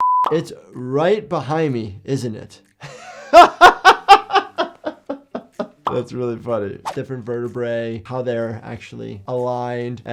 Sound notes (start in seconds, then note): 0.0 screen beeps; 2.8 laughing